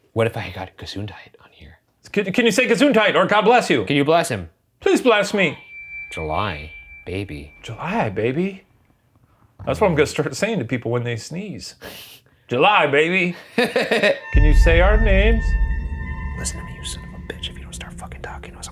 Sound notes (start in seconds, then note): 13.4 laughs